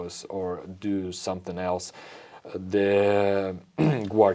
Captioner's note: clears throat